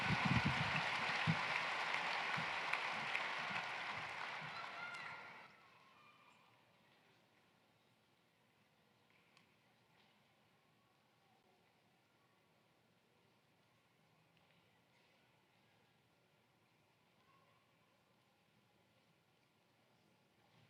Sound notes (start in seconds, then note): 2.2 applause